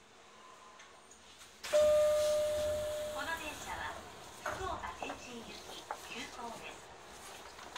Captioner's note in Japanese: ポーン